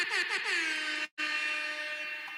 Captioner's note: horn honking